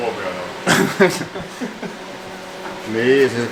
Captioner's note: laughs